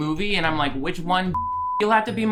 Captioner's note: beep